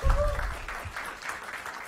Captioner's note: applause